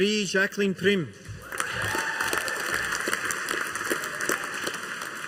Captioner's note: audience applauding